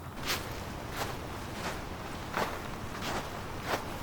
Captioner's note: snow crunching